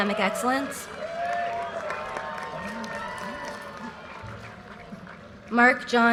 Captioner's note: audience cheers and applause